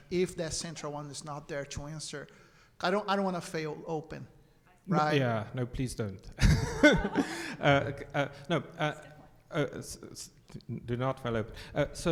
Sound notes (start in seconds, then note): 6.4 all laugh; 10.5 stammers